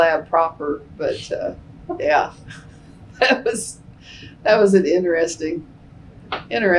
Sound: laughter

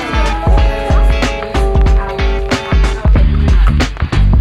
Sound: background conversations

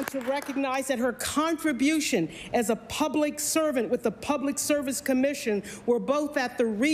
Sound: applause

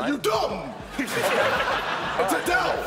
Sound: laughing

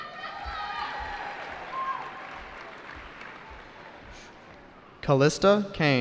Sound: cheering

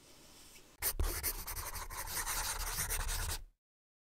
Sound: pencil scribbling

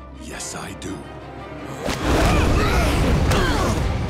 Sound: grunting

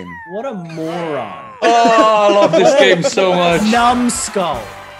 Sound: laugh

